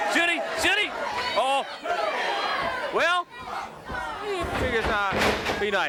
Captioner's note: blows thudding; body thudding